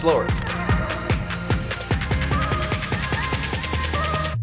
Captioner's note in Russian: Звук камеры